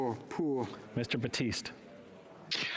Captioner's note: speaking French